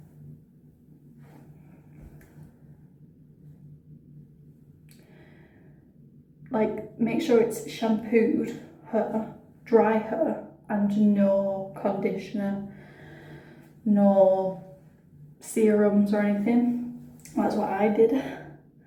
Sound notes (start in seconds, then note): none